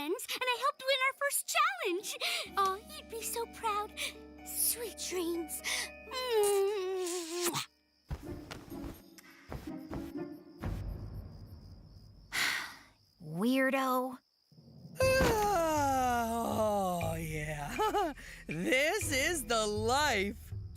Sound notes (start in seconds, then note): 12.3 sighs; 14.9 Mike Sighing; 17.6 giggling